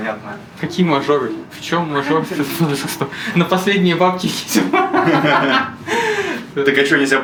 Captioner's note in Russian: смех